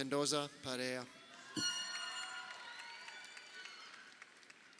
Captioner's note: crowd cheering